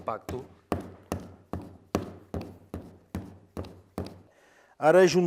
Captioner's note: banging the clay on the table